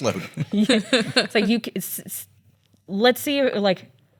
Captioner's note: laughs